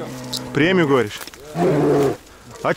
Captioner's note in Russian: рёв медведя